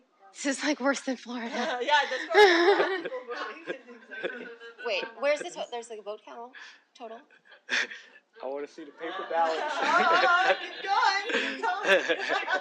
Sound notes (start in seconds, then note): 1.4 laughter; 9.0 laughter